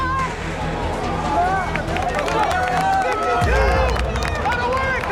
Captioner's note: cheering